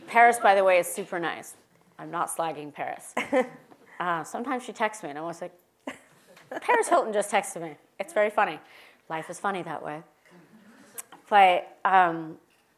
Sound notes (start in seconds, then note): 3.3 laugh